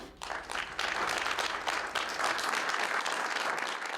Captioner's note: applause